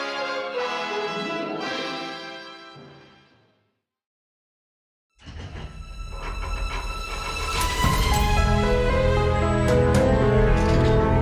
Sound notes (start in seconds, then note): 0.0 lively music continues; 4.3 trolley rattling